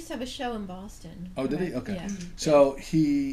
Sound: voiceover

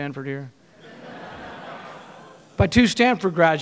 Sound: audience laughing

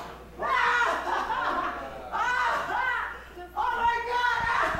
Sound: laughing

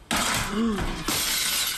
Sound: shattering glass

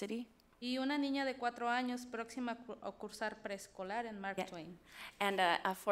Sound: speaks foreign language

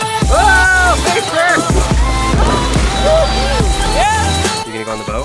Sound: shouting

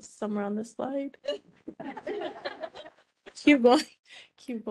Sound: laughing

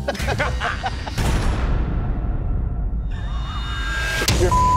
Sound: both laughing

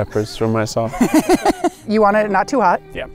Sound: laughing

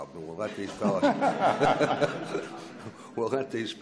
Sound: laughs

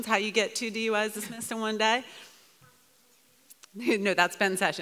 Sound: woman speaks off mic

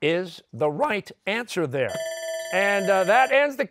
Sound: bell ringing

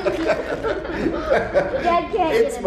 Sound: laughing

